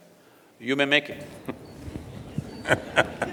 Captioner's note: laughter